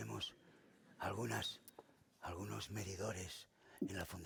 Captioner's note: speaking spanish